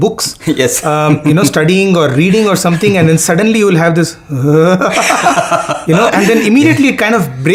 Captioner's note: laughing sounds